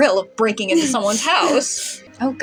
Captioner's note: snicker